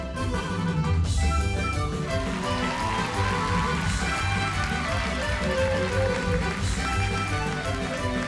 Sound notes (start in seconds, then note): 2.0 audience cheering